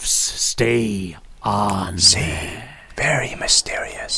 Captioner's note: whispered